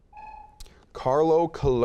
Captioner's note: buzzer beeping